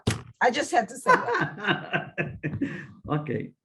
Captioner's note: laughs